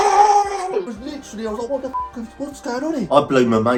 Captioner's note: beep